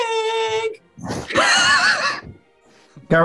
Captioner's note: falsetto – joins in; sniggering